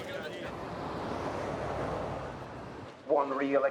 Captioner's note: car whooshes past